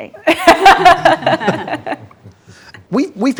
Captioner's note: group laughs